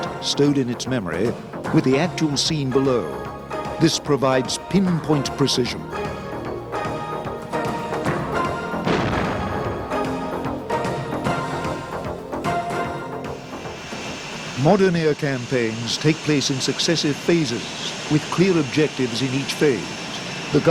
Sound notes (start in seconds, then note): 6.6 dramatic music; 8.8 missile exploding